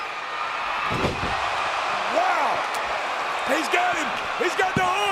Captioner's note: audience cheering